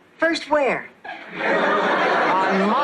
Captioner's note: laughs